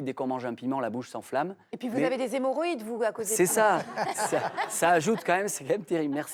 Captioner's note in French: rires